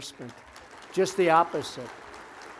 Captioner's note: applause